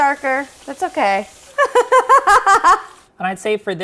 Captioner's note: laughing